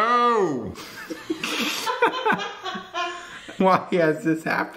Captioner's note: both laughing